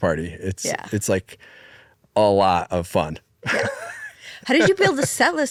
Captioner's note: laughs